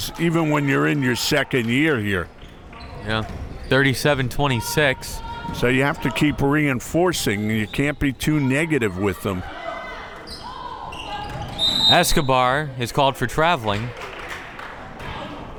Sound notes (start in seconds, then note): 11.6 whistle tweeting